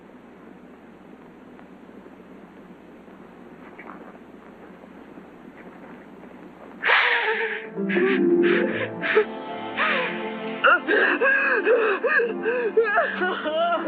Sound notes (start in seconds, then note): 6.8 sobbing; 10.7 romantic music